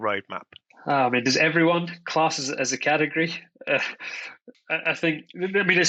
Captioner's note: laughs